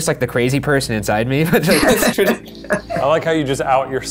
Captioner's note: laughter